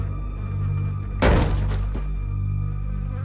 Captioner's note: loud thump